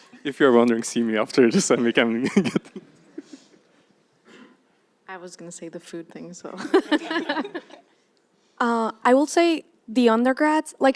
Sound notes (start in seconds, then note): 2.7 laughs; 6.6 laughter